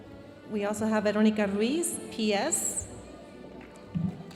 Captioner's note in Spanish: hablando en inglés